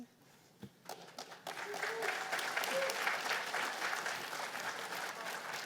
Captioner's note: cheers and applause